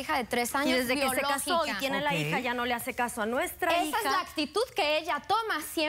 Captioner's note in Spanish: Hablan al unísono